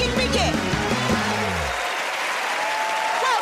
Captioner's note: cheers and applause